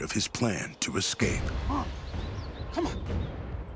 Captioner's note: speaking shawnee